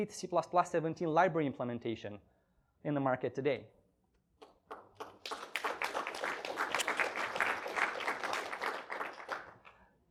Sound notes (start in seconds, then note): 4.6 applause